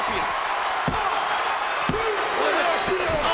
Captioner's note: audience cheering